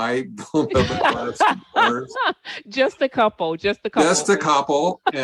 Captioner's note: laughs